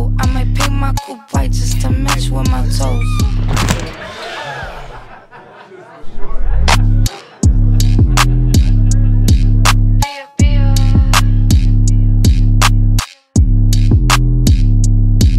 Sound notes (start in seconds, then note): 4.0 all gasping; 12.2 upbeat electronic music